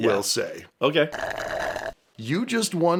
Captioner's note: slurp